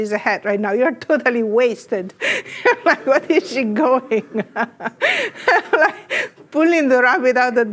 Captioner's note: laughs